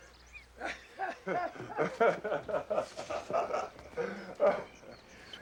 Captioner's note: both laughing